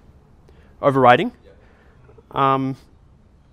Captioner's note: voiceover